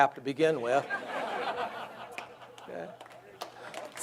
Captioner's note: audience laughs; audience applauds